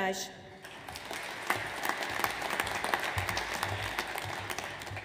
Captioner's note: audience applauds